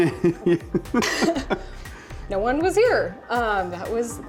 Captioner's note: both laughing